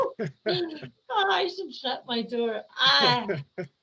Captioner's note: laughing